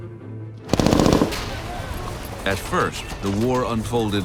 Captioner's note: machine gun fire